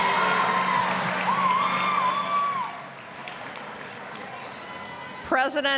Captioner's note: applause, cheering